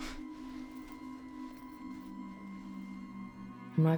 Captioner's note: Claire scoffs